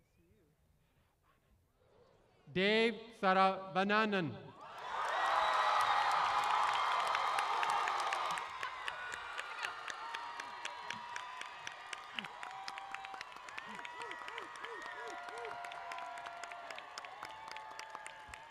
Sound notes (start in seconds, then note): 4.6 applause & Cheering